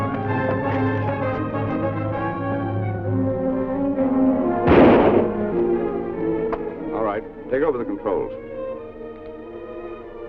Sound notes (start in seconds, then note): 4.6 gunshot reporting